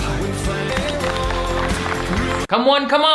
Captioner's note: audience clapping